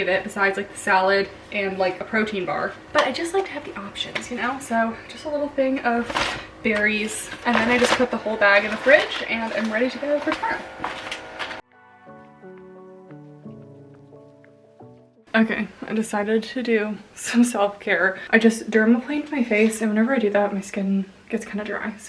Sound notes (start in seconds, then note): 10.6 peaceful music; 10.8 bag rustling